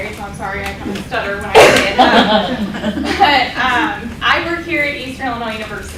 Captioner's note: laughter